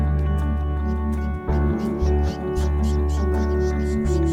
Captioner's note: chicks peeping